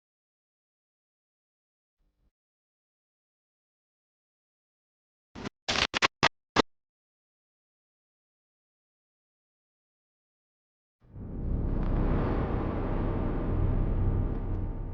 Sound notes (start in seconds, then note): 5.6 static crackling; 11.0 suspenseful music